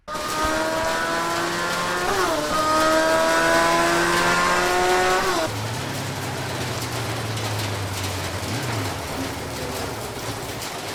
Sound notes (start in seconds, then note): 0.0 sports bike roar and rain; 5.8 the sport bike brakes and stops